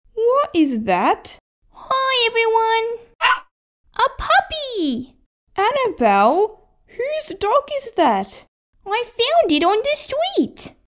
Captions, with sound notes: What is that? Hi everyone (Bark!) A puppy! Annabelle... Who's dog is that? I found it on the street